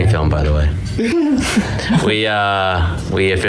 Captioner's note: laughs